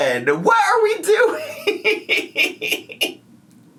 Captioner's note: laughs